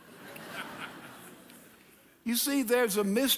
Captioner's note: audience laughing